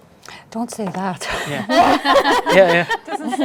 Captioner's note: panel chuckles